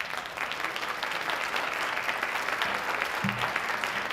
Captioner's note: audience applauding